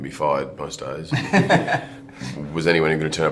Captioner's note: laughs